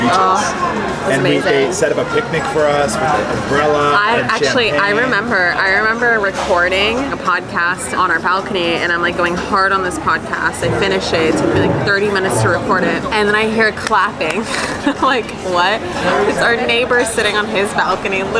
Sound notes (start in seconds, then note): 13.8 hands clapping; 14.3 laughing